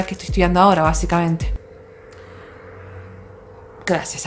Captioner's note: car sounds